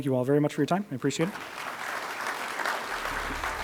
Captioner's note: applause